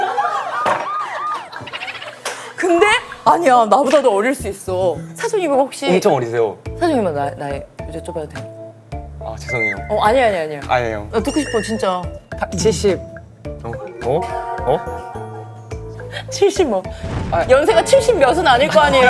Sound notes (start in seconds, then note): 1.6 hahaha